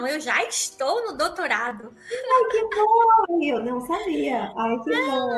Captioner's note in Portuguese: risos!